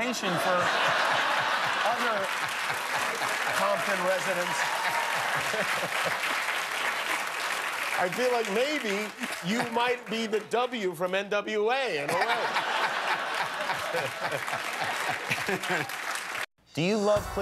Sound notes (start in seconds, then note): 5.5 laughter and applause